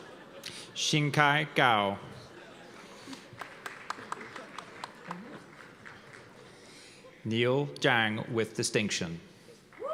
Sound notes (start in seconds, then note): 3.1 applause; 9.7 cheers and applause